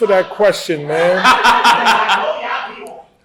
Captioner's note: laughter